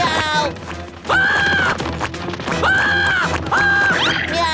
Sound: screaming

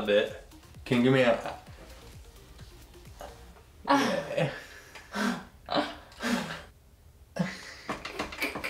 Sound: laughing

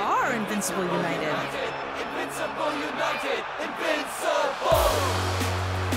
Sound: crowd; hip-hop music

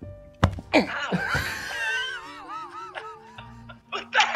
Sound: ball THUDS against Ryan's chest; everyone wheezes in shocked laughter

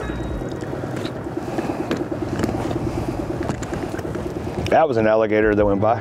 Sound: engine droning; upbeat music continues

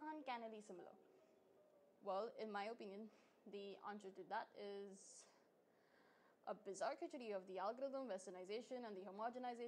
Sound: deep breath

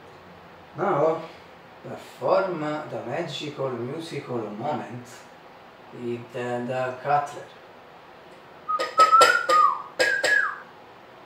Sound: whistle

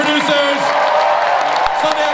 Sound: audience applauds and cheers

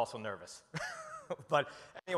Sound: chuckles

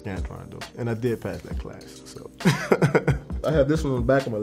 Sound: laughs

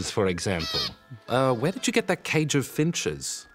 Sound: finches chirp

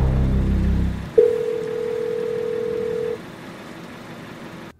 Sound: phone rings

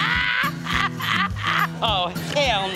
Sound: laughs

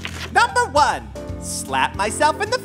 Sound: soundbite of pages shifting

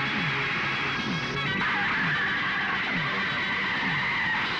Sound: tires squealing

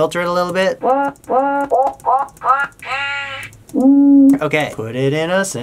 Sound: sound distorts

